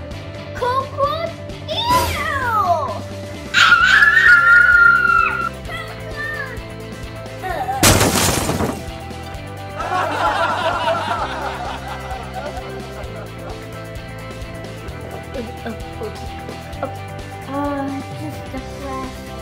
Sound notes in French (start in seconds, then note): 7.8 son de fracas; 9.8 rire